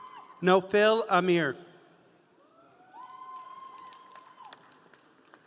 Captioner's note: audience cheering